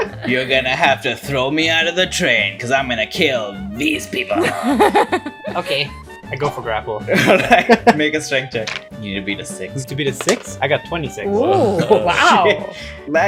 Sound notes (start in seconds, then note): 0.0 laughter; 4.4 laughter; 7.3 laughs